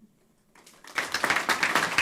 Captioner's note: applause